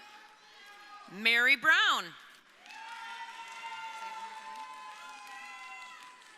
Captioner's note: crowd cheering